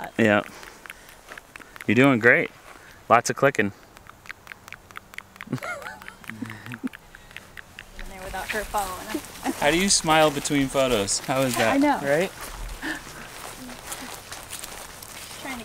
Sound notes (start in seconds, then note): 3.5 mouth clicking